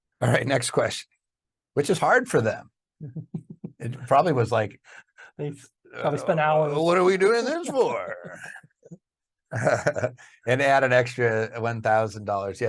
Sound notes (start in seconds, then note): 7.6 laughing; 9.5 chuckles